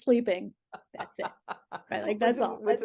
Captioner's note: laughing